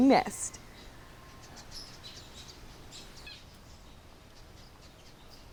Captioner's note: birds chirping